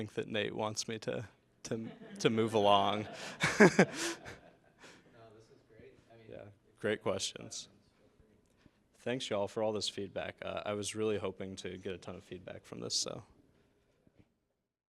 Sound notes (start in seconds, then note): 1.7 laughter